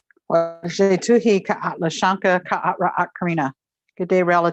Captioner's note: non-english speech